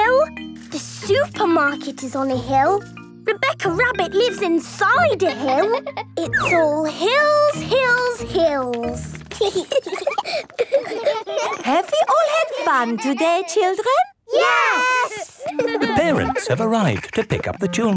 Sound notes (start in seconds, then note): 5.2 laughing; 9.2 giggling